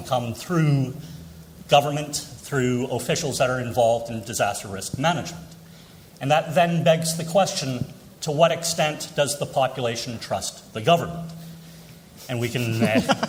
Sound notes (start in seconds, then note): 12.6 laughter